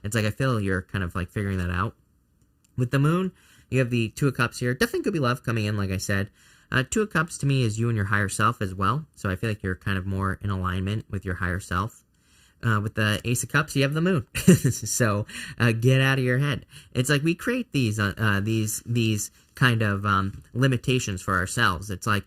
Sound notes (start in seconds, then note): 14.3 chuckles